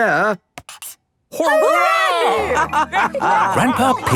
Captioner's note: all laughing